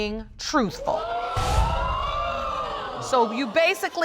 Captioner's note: audience exclaims